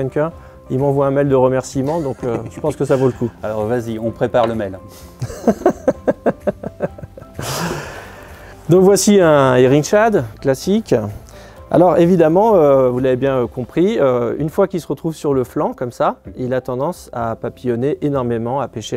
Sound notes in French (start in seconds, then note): 5.2 Rire